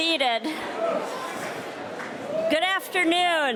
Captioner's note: audience cheering